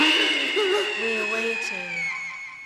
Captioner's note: scream